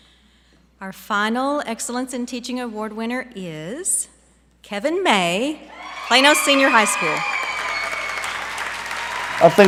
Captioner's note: applause